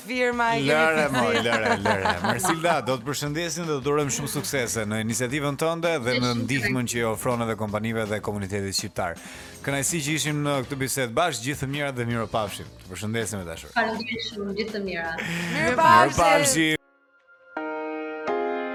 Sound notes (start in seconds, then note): 2.2 laughing